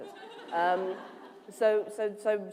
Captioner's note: laughter